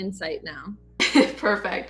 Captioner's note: chuckling